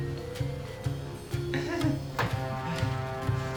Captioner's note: nervous haha